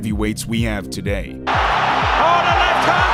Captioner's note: crowd cheering